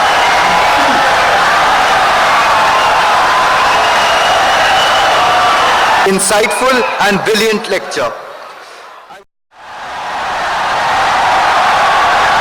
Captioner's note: wild applause and cheering for 17 seconds